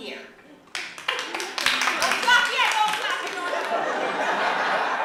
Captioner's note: applause